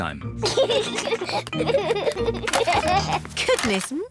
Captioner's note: both giggle